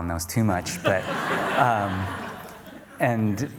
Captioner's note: audience laughter